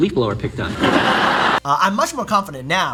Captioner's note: audience laughing